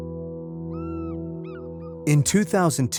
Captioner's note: birds squawking